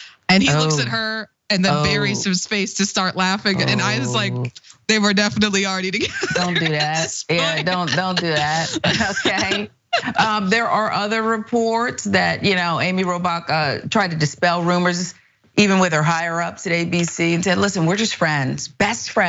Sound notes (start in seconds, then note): 6.0 laugh